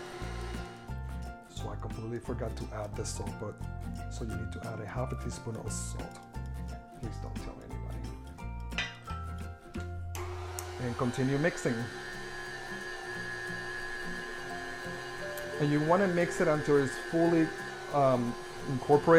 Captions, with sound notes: So I completely forgot to add the salt, but, so you need to add a 1/2 a teaspoon of salt. Please don't tell anybody. And continue mixing. (stand mixer mixing) You want to mix until it's fully incorporated.